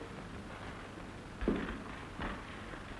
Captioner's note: footstep